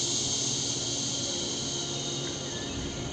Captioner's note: exhales